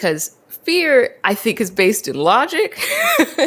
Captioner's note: laughs